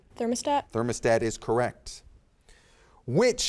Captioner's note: none